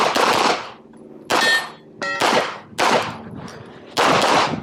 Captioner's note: gunshots banging; targets pinging